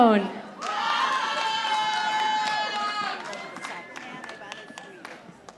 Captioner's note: audience applauding